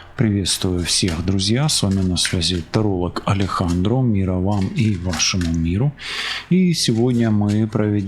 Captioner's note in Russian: фыркает